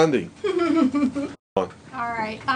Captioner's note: laugher